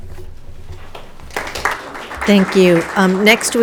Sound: audience applauding

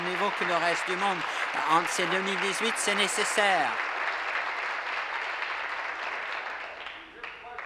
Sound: applause

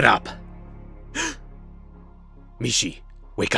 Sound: gasp

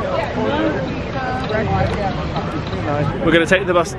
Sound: guests chattering

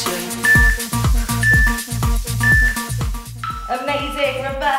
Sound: beeping sound

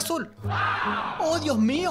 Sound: crowd gasping

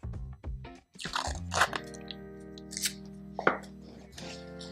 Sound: tape tearing

